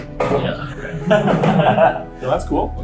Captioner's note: laughter